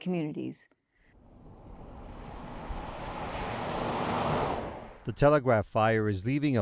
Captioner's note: moving vehicle engine roaring